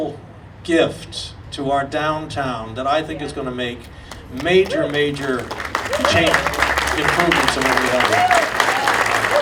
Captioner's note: audience applauding